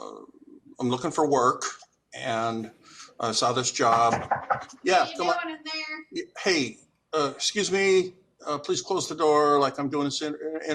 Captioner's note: knocking on door